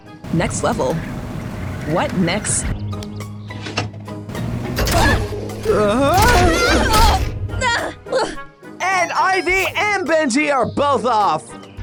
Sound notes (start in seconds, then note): 4.6 all grunting; 5.6 BENJI grunting; 5.6 IVY groans; 7.4 IVY grunts